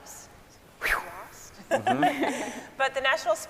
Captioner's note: scientists laughing